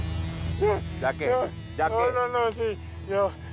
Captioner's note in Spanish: quejidos